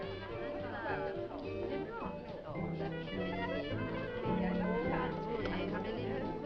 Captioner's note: upbeat music; people chattering